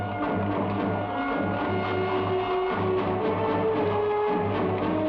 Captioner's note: horse hooves patter